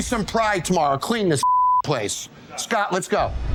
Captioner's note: beep